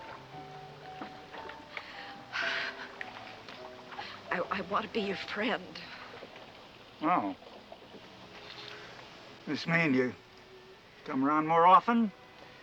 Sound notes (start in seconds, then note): 1.6 sighs